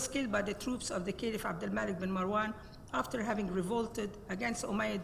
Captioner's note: speaks Arabic